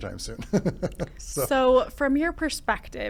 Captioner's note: laughing